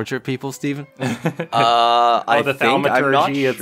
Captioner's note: chuckles